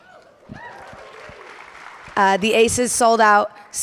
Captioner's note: audience applauding and cheering